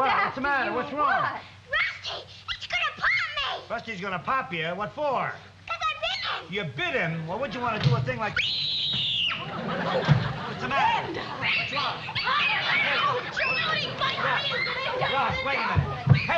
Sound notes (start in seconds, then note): 7.7 door slams; 8.3 shrieking